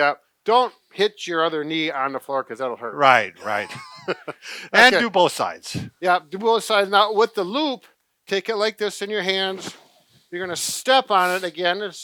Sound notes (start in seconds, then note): 3.4 chuckles